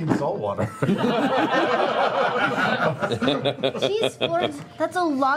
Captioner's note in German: mit Sams Stimme; Lachen